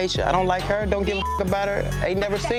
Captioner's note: beep